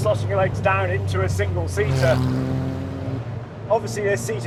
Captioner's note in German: Motorgeräusche